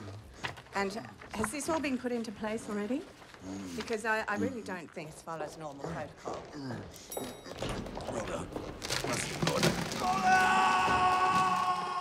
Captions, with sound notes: Um, and has this all been put into place already? Because I really don't think this follows normal protocol. Rollover. Must order... (screams)